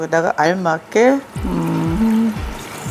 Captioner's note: humming